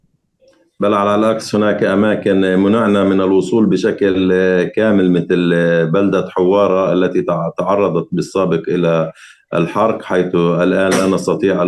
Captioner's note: speaking arabic